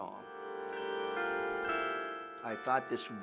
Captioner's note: clock chiming